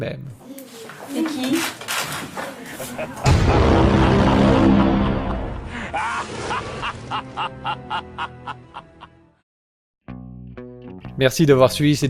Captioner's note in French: Rire diabolique